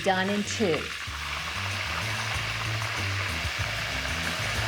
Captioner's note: oil sizzles